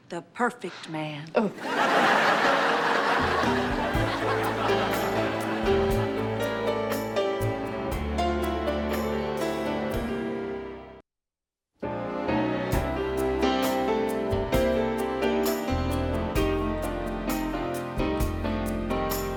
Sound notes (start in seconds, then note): 1.5 audience laughs; 2.4 jazzy piano music